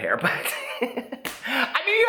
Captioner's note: laughs